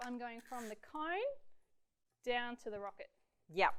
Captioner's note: none